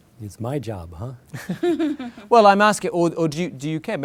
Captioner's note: laughter